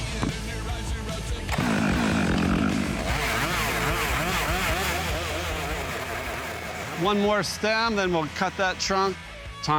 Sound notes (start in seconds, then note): 1.4 chainsaw rattling; 3.5 chainsaw humming